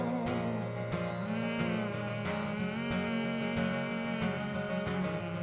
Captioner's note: hums with guitar